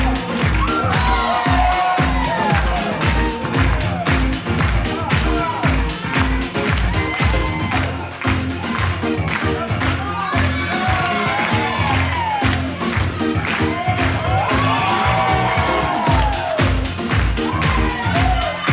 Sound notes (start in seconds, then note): 0.1 audience cheers; 13.9 audience cheers